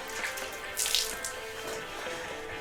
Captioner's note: water soaks; water spills